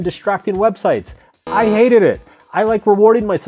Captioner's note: timer buzzes